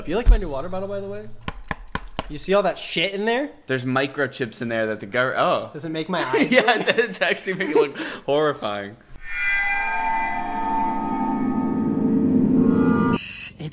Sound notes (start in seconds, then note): 2.1 knocks loudly; 6.1 laughs; 9.2 horrifying music